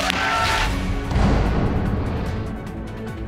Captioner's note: audience cheering and clapping